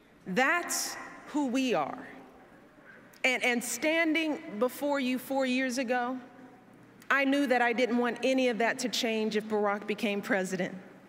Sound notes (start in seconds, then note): none